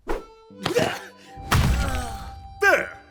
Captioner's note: Giovanni moans in pain